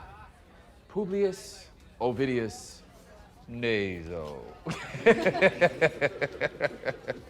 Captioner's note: laughs